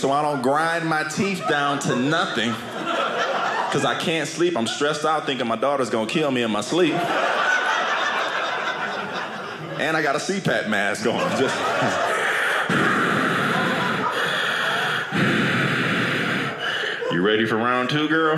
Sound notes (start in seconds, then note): 6.8 audience laughing; 12.0 breathing